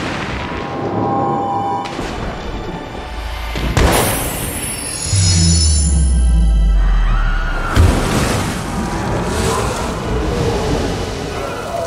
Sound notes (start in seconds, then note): 5.1 people screaming